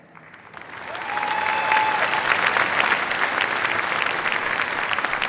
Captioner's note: cheers, applause